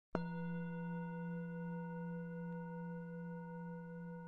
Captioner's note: bell dinging